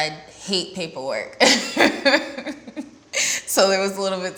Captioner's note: laughs